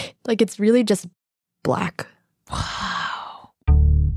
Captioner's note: whispers